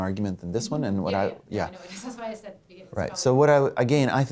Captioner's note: voiceover